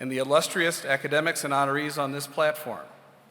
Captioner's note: none